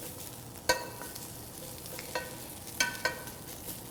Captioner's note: sizzling sounds